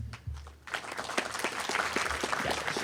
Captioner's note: applause